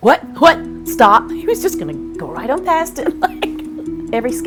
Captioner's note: laughter